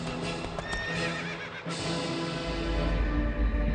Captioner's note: horse neighing